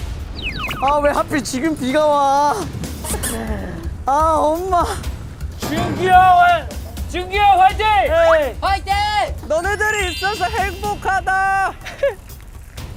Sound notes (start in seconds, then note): 2.9 tottering steps